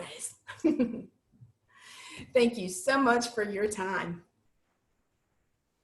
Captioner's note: laughter